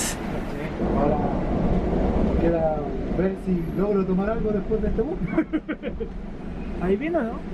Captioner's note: laughs